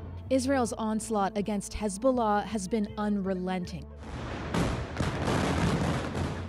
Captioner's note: bombing